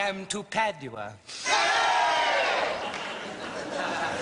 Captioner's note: Crowd cheers Padua